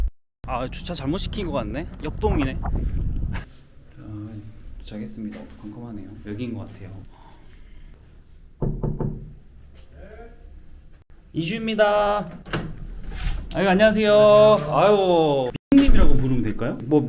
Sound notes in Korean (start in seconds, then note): 8.6 똑똑똑